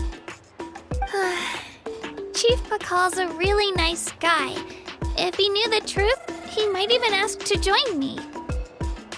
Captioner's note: sigh